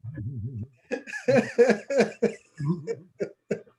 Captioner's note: laughter